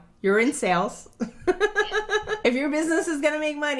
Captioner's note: laughing